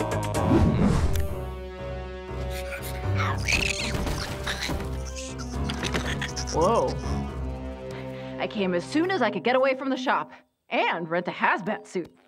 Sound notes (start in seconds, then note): 3.2 squeaking